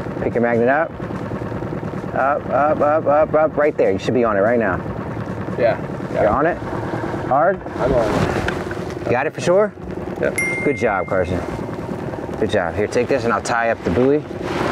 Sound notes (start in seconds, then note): 10.3 bell ringing; 14.5 engine droning